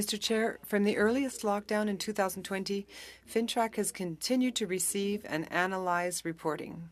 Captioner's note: speaking French